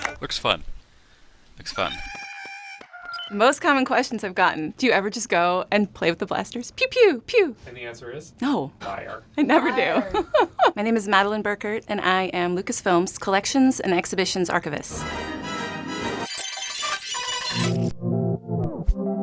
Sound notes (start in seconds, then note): 2.2 Porg noise; 9.4 lauging